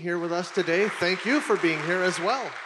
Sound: audience applauding

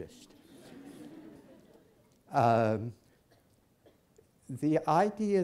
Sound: laughter

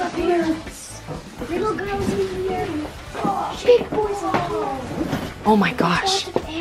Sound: kids talking over each other

